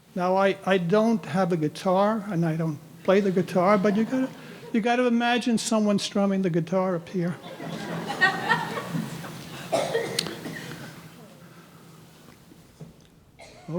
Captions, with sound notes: Now, I don't have a guitar, and I don't play the guitar, but you gotta imagine someone strumming the guitar up here. (audience laughing)